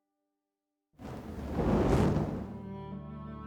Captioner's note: thunder